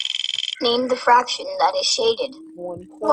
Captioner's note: wheel clicking; voiceover